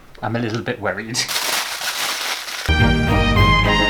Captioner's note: aluminium Foil Scrumpling; classical Music